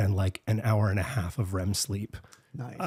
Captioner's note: none